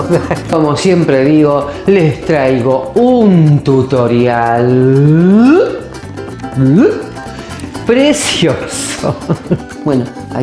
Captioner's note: laughs